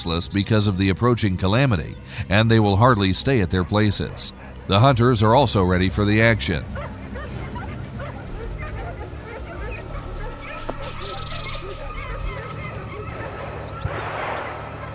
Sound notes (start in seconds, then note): 7.0 dogs barking; 11.1 dogs barking; 11.1 shuffling; 13.8 gunshot